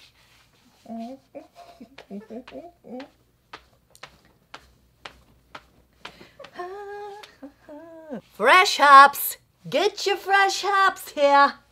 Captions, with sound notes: (stomping feet) Fresh hops! Get your fresh hops here!